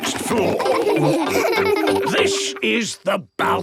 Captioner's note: laughing